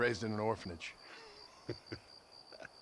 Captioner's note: laugh